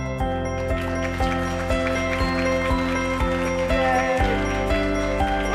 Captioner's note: audience applause